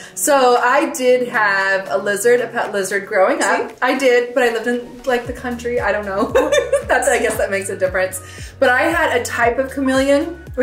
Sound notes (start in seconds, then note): 6.1 mom laughing